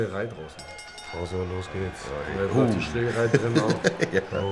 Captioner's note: glockenton